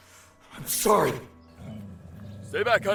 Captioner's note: dog growls